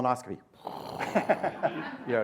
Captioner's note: blows raspberry; laughter